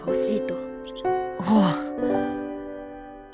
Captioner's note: relieved sigh